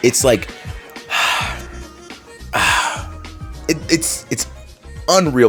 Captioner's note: exhales